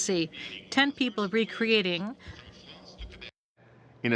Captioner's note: speaking in french